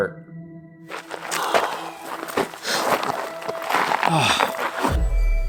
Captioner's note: sighing and grunting